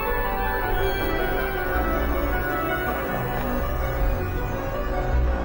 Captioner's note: monitor buzzes; ominous music